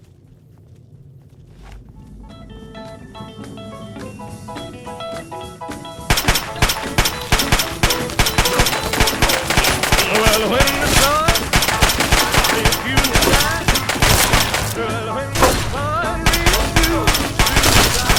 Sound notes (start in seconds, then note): 6.1 bang bang bang!; 14.1 bang bang! pop pop pop!; 15.3 ka-chang! ba-ba-boom!